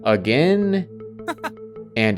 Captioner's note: laughs